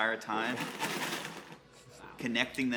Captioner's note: box rattles